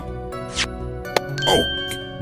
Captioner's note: click!